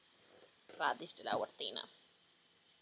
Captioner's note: in Spanish